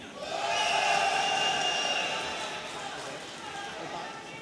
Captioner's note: audience cheering